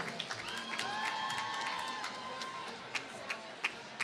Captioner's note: applause